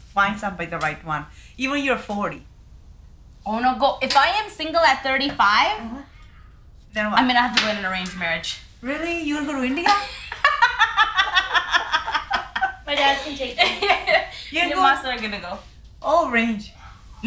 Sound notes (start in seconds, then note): 10.0 cracks up; 11.8 others laughing